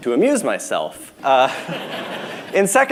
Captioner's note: laughter